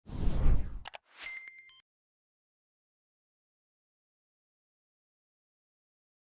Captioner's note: clicking and chiming sounds